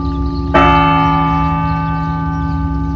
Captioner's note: bell tolls